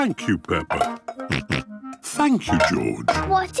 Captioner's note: snorts